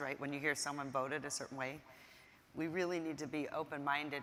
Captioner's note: none